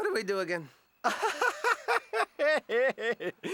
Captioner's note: laughing